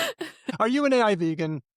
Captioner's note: laughter